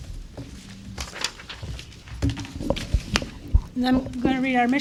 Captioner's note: papers rustling